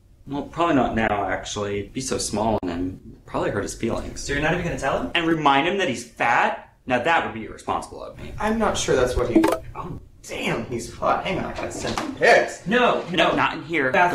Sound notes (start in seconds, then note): 9.3 Grindr alert